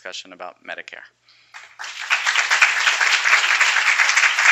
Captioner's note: applause